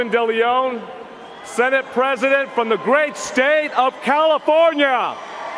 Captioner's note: cheers and applause